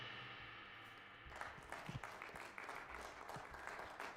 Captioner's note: applause